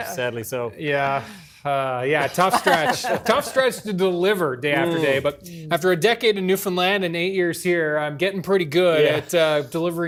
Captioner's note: laughter